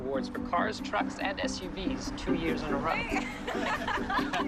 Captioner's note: laughing